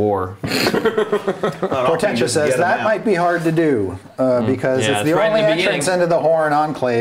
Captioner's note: laughing